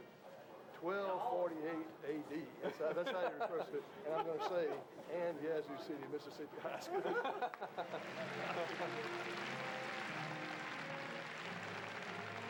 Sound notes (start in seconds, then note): 7.8 applause erupts